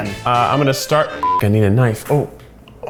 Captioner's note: beep